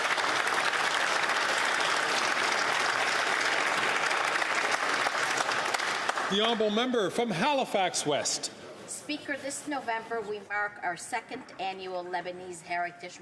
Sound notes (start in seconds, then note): 4.5 some Applause